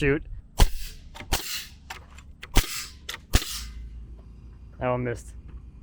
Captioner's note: nail gun shooting